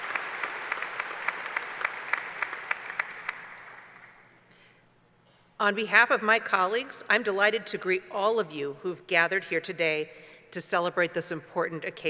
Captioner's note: applause